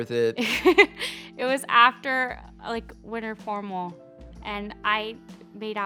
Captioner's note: laughing